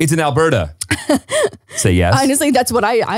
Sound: laughs

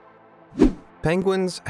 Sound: video whooshing

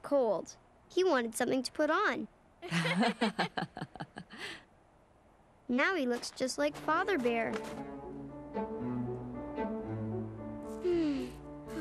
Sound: laughing

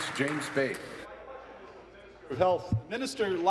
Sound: applause

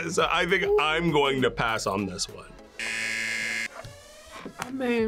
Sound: buzzer

